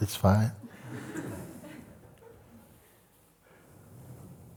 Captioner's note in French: rires